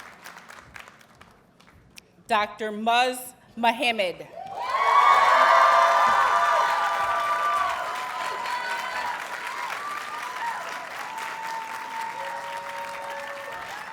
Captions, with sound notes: Dr. Muzz Muhammad. [Audience cheers and applauds]